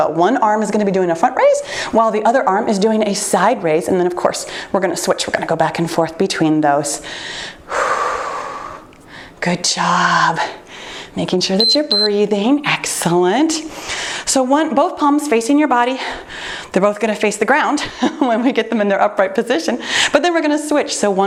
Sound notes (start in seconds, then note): 7.7 exhales loudly; 11.6 timer beeps